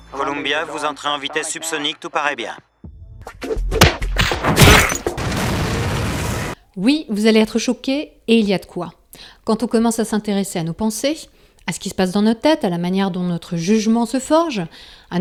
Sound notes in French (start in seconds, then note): 3.8 Coups de poings; 4.1 Explosion